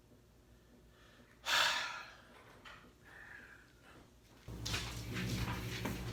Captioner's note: sigh